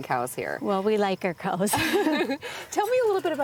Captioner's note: laughing